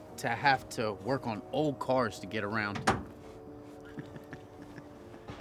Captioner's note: chuckles